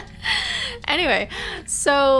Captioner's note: laughing